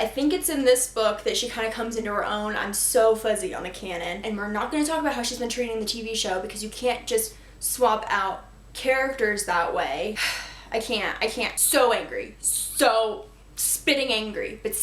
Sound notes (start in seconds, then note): 10.2 sigh